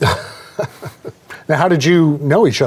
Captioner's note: laughs